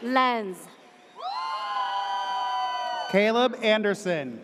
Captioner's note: audience cheers